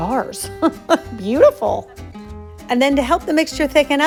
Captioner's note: chuckling